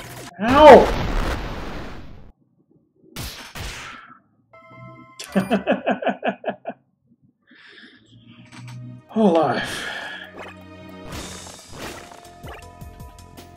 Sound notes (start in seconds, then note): 5.2 chuckles